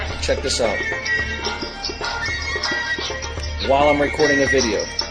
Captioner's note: phone playing ringtone